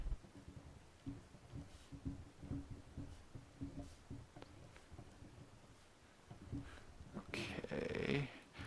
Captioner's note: writing on Paper